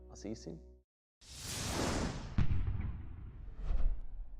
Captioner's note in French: swoosh